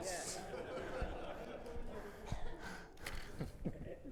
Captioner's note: audience laughing